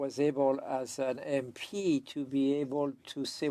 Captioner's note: speaking French